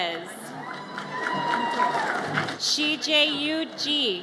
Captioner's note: audience applauds and cheers